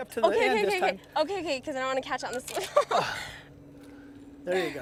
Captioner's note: laughter